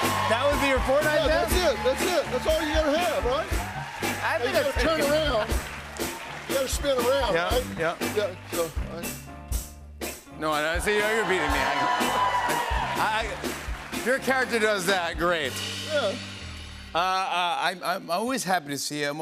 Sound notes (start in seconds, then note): 10.6 cheers and applause